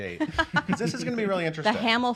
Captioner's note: laughing